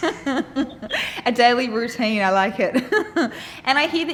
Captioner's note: laughing